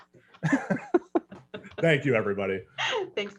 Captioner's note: all laugh